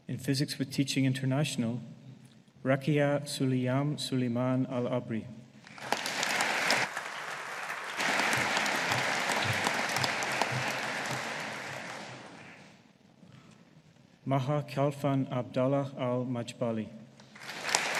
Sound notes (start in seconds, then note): 5.6 audience applauding; 17.3 audience applauding